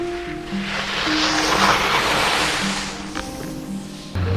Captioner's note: skis scraping